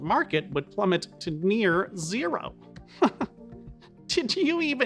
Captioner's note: chuckling